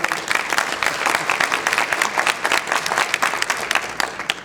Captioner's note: audience is clapping